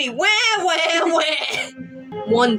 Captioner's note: both Chuckle